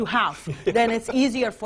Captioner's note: laughter